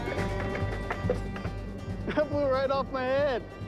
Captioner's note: hat clattering